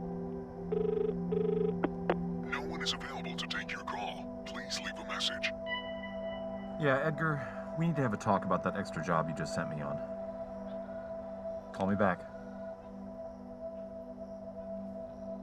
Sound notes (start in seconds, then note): 0.0 dial tone continues; 2.0 answering machine